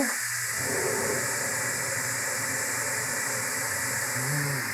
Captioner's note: oven hood whirring